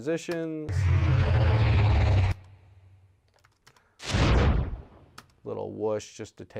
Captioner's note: portal makes otherworldly sounds